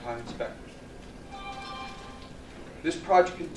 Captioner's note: phone dings